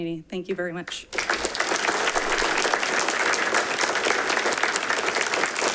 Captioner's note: audience applauding